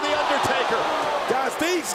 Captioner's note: crowd shouting